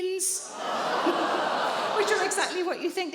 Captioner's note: audience groans